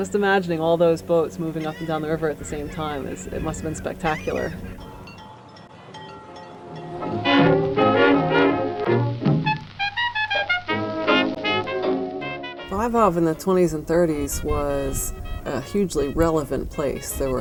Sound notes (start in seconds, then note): 6.3 faint wind chime